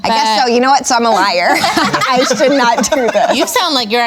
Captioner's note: everyone laughs